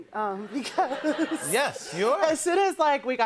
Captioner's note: laughter